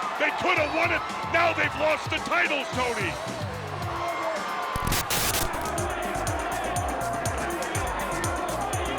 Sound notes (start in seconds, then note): 3.3 upbeat music; 4.7 burst of static; 6.2 upbeat music